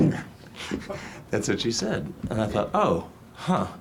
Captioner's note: laughs